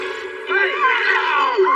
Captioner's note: scscrereamamams